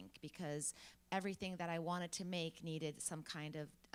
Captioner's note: none